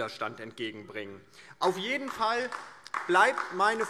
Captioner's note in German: Beifall DIE LINKE